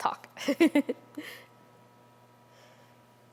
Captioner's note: laughter